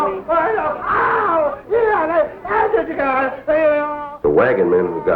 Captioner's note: agitated man is struggling and yelling